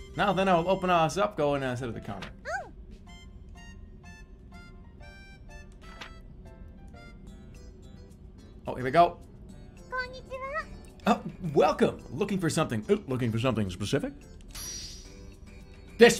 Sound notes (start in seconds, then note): 11.0 clears throat; 13.1 deepens voice